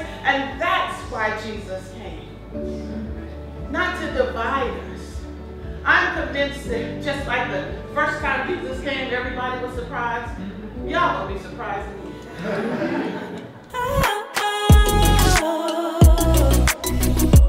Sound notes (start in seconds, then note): 12.2 laughs; 14.7 soulful thumping beat